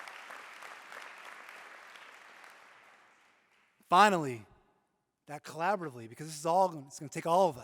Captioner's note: applause